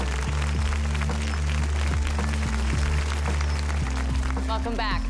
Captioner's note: applause